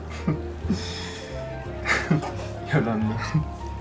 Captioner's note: chuckles softly